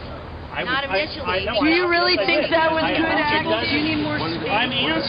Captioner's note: voiceover